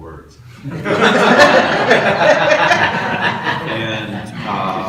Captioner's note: audience laughs